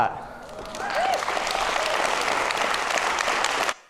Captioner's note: audience clapping